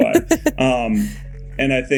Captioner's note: Mikaela laughing